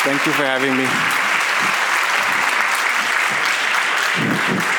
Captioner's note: audience applauds